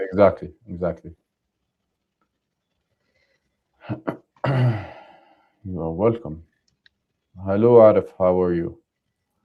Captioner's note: clears throat